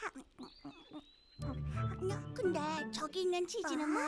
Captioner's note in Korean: 먹는 소리